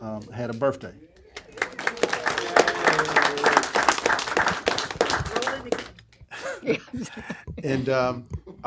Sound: applause

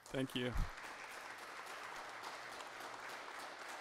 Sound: applause

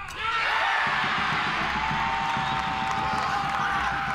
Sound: crowd cheers loudly

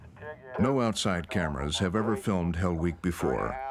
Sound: voiceover

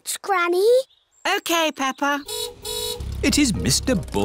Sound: car horn honks

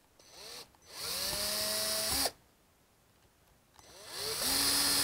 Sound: screwdriver running

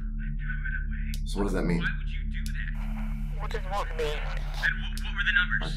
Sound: over walkie

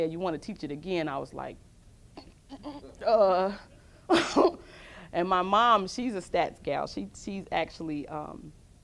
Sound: disgusted noise

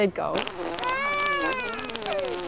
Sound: crying

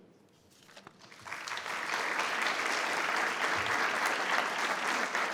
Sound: board and audience applauding

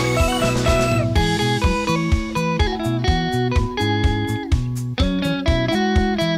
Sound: distortion

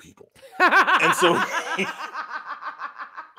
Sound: laughs

